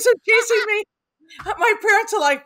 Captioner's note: laughing